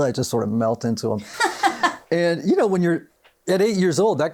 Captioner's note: laughs